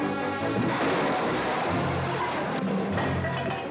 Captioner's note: loud crash